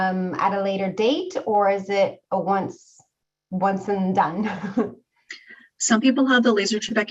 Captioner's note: chuckling